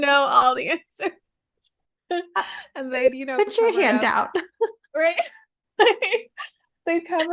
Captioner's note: laughing